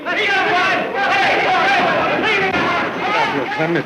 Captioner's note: rowdy yelling